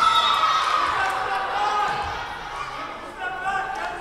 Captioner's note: whistle blowing